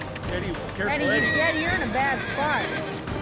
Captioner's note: horse neighing